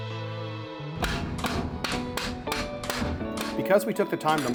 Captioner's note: hammer banging